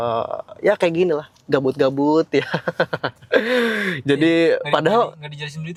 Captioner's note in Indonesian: tertawa